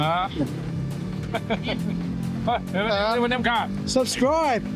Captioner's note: speaking foreign language